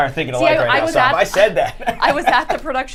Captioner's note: laughs